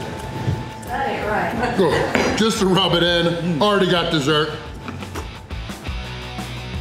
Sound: laughter

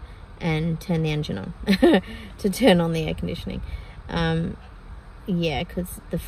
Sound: laughs

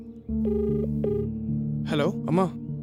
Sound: line ringing

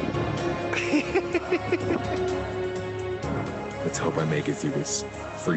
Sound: laughter

